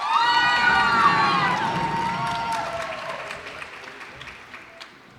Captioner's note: cheers and applause